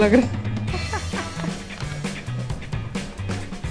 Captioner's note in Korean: 웃음